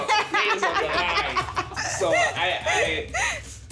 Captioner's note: laughing